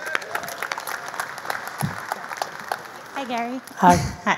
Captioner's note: audience applause